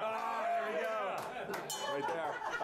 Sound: laughter; bell rings

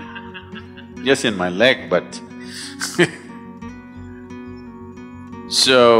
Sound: laughter; laughs

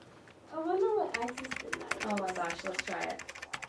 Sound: keyboard clicks

